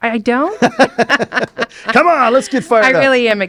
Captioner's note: laughs